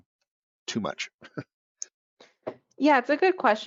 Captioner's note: chuckles